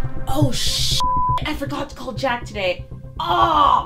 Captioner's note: dramatic music; beep